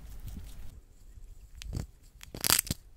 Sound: hamster crunching rice pop

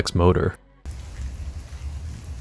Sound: nature sounds

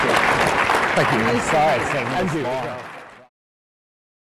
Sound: laughter; applause

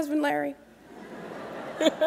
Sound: laughter

